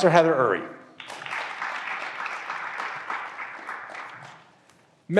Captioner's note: graduands applauding